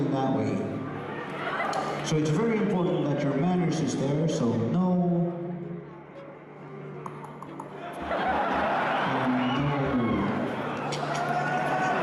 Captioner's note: tongue clicking